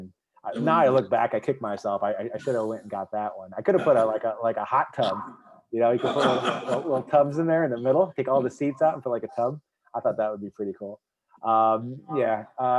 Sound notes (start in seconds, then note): 6.0 laughing